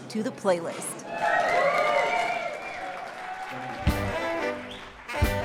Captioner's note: applause; swing music playing